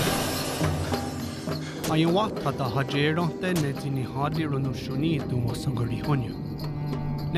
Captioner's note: speaking Native language